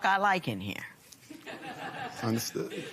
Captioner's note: laughter